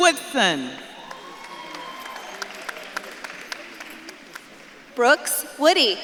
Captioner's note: audience claps and cheers